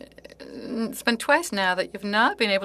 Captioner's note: speaking French